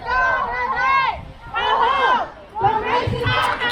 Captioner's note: crowd